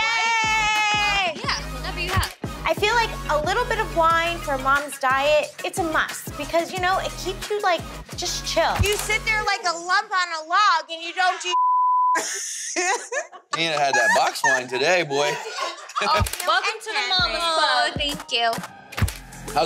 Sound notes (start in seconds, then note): 11.5 beep; 12.1 woman laughs